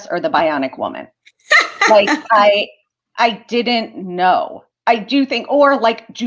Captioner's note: laughter